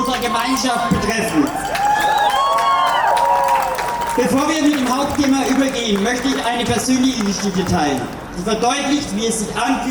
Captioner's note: applause, cheers